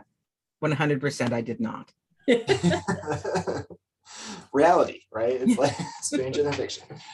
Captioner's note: laughs